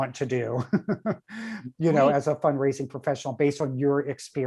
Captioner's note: chuckles